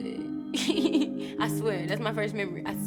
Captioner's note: laughs